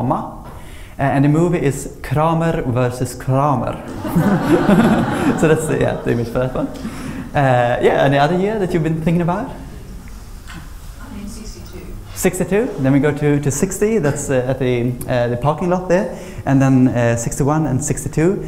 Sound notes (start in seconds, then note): 3.8 laughter